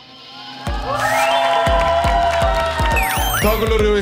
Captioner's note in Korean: 자동 / 박수